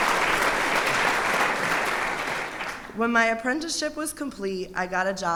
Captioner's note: applause